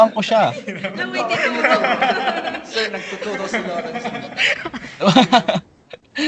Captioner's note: laughs